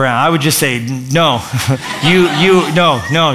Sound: laughter

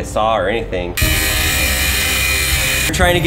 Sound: grinder buzzing

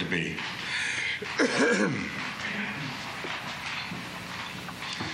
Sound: coughs

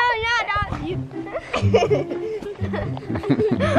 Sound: kids giggle; giggles

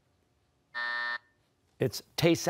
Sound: buzzer

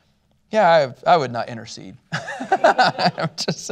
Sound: laughter

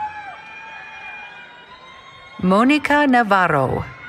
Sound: cheering

